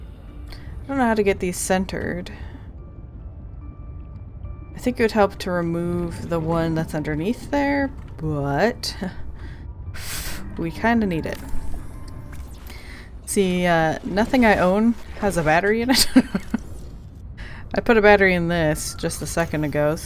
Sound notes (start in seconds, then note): 15.9 laughs